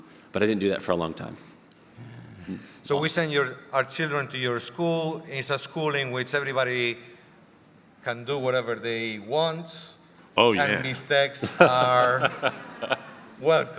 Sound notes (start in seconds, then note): 11.4 audience laughter